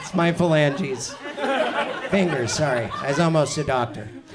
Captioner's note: audience chuckles